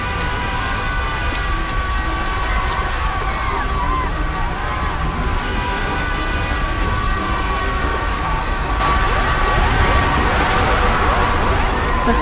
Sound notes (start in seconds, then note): 0.0 electric transformer sparking as traffic roars and horns blare; 1.5 people crying amid roaring traffic; 8.8 emergency siren wailing